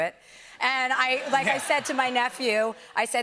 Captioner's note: laughter